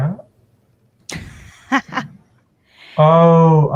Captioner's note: laughs